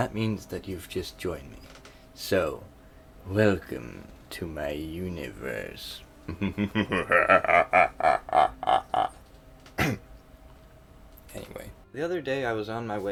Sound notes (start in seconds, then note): 9.7 ahem